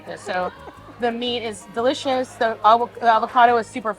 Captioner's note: chuckling